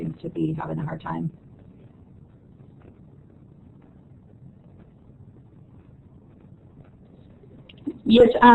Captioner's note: silence